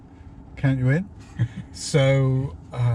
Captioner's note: laughs